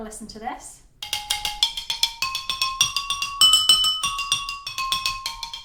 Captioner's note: different pitch glass sounds